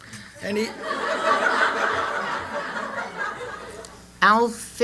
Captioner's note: laughter